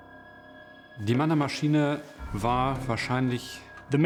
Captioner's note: non-english speech